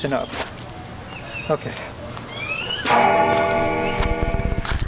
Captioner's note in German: Glocke klingelt